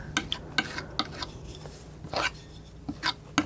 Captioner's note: scratching